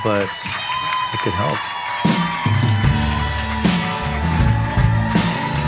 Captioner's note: audience applauding and cheering